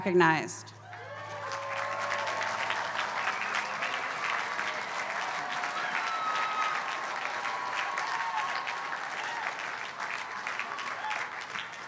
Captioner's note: applause